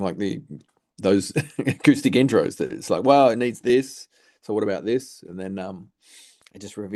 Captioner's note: chuckles